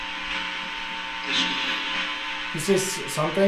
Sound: radio noise hissing

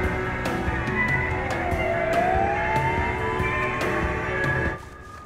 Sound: siren wails

